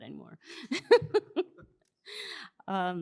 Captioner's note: laughs